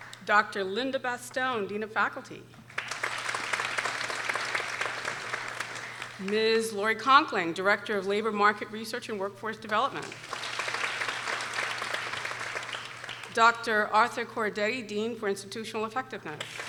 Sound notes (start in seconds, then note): 2.6 people applauding; 10.0 people applauding